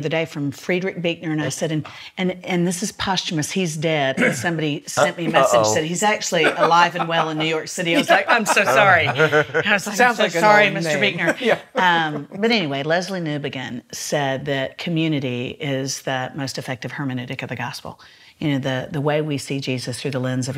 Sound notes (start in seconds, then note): 8.1 laughs